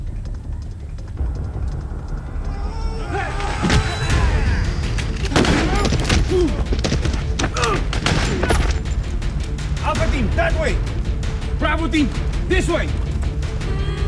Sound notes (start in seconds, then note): 2.3 men screaming; 5.0 gun banging